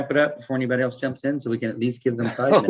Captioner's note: laughing